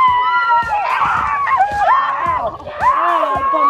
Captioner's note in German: schreiend